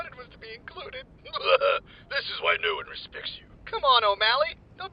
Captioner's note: laughs